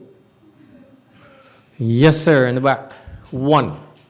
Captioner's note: none